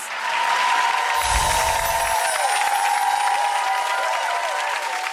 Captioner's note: audience cheers